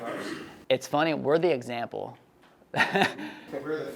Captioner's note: laughs